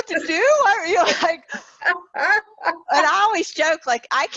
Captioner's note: laughing